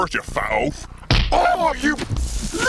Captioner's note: punch